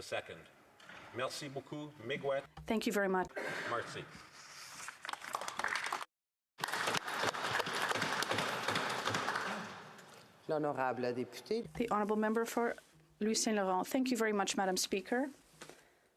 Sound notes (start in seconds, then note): 8.8 applause